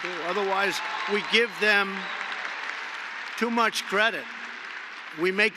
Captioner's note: applause